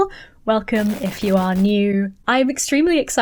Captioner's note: static sounds